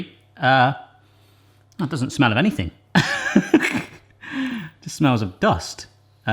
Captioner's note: laughing